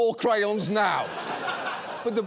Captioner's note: audience laughs